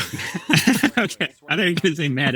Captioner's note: group laughing